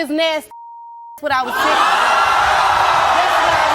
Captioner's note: audience cheering